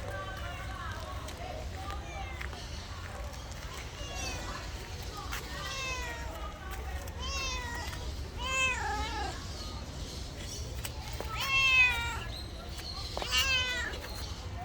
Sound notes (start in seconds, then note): 1.3 meowing cat